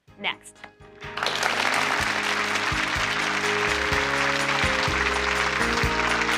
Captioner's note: audience applauding